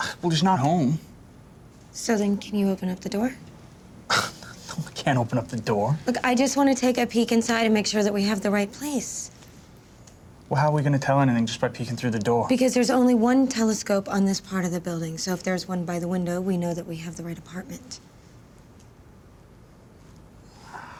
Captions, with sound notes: (SCOFFS) Well, he's not home. So then, can you open up the door? (SCOFFS) No, I can't open up the door. Look, I just wanna take a peek inside and make sure that we have the right place. How are we gonna tell anything just by peeking through the door? Because there's only one telescope on this part of the building. So, if there's one by the window, we know we have the right apartment.